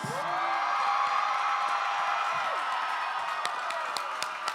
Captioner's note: applause